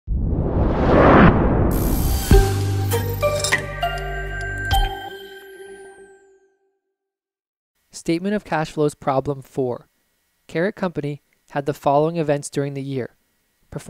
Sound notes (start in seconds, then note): 0.1 whoosh; 1.7 opening music